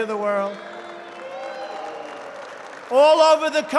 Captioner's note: applause